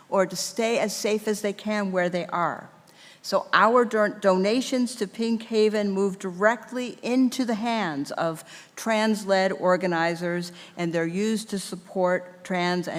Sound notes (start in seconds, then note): none